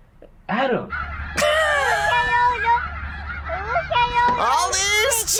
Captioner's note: laughs